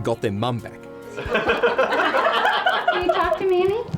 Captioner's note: laughing